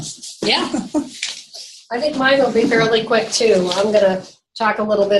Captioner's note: audio warps